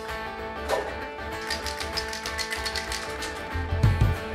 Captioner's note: upbeat music; spray can rattling; spraying